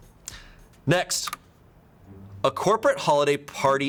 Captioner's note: button clicks